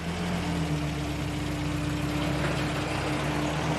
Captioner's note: trailer rattling